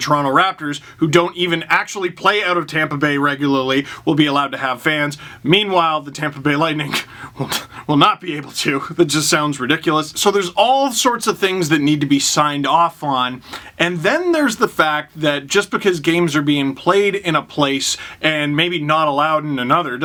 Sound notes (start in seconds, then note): 7.3 laughing